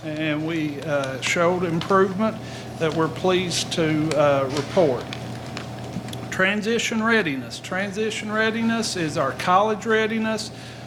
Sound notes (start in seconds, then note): none